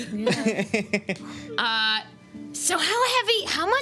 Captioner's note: laughing